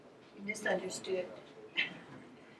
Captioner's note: voiceover